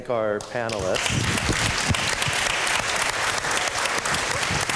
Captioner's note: applause